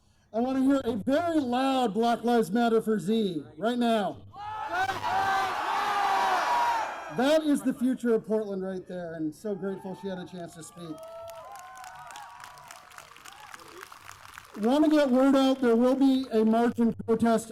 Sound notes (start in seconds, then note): 11.5 cheers, applause